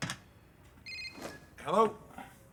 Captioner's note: ringing